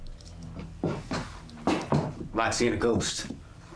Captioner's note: footsteps thudding